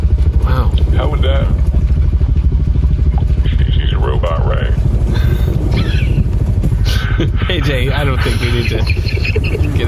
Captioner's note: laughing